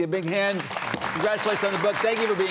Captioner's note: audience applauding